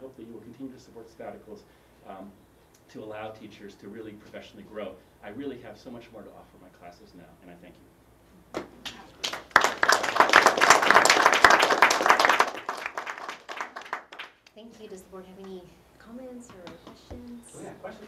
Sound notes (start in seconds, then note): 8.8 applause